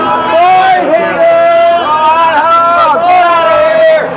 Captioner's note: shouting